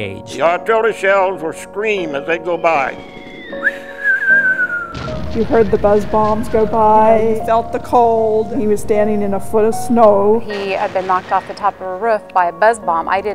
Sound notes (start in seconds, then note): 2.1 whistling noise; 3.2 bombs